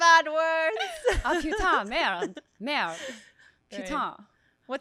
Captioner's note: speaking in French